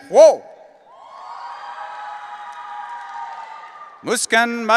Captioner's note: audience cheering